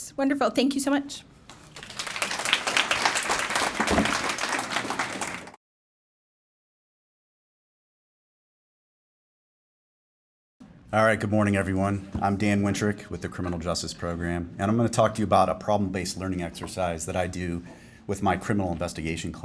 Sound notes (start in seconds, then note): 1.5 applause